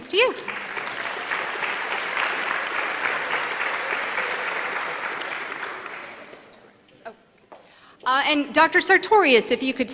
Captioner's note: applause